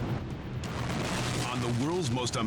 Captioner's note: fire whooshing